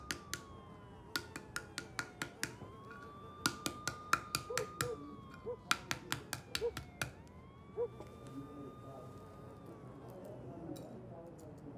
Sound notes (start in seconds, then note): 4.4 dog barking